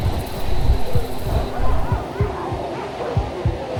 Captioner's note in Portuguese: Latidos distantes